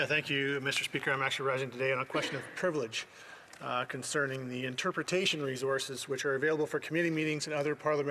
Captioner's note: speaking French